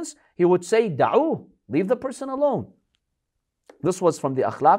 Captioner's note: Arabic